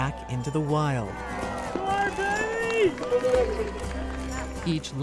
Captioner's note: all cheering